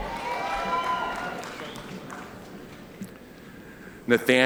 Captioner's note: audience cheering